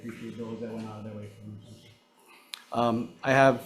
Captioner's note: speaks faintly